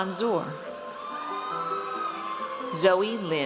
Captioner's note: audience cheers